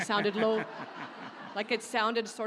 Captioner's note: audience laughs